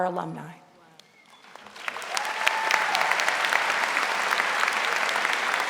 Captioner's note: audience applauding